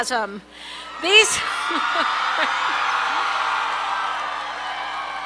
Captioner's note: cheering